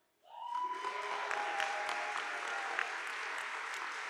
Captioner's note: audience applauding